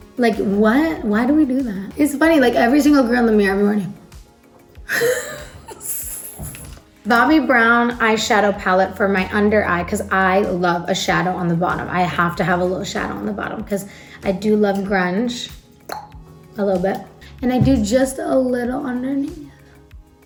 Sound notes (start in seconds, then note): 4.9 laughs; 15.6 clucks tongue